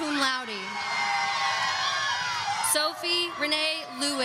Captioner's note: audience cheering